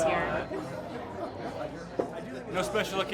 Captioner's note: men chatting